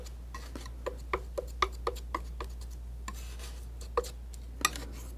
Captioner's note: tapping